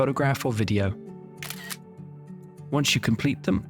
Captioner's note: camera clicks